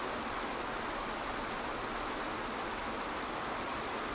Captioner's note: water splashes